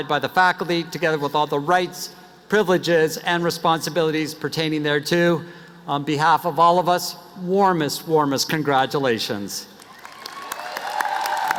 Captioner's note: applause